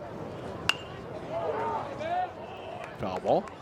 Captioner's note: bat dings